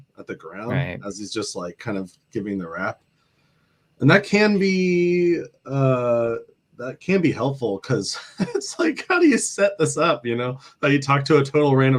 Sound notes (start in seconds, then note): 8.1 laughter